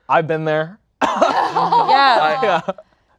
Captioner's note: laughing